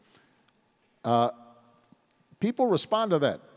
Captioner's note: none